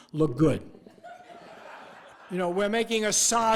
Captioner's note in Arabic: الجمهور يضحك